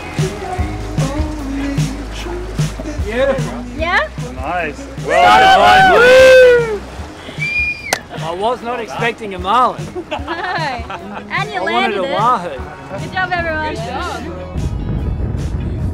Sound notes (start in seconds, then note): 5.7 yelling